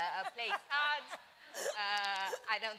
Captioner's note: laughter